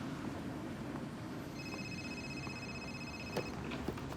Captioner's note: cell phone rings